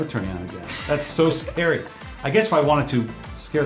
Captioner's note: laughs